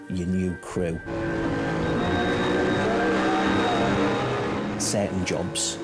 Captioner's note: engine revving